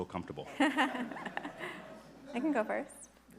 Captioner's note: everybody laughing